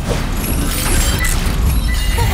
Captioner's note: watch whirring, beeping